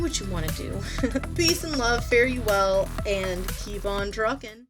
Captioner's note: laughs